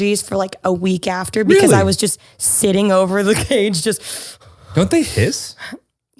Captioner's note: inhales